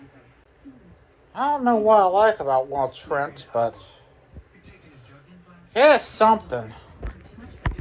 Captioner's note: slurred